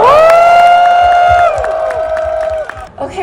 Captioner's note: clap